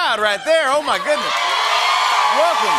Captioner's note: cheers and applause